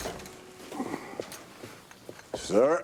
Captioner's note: footstep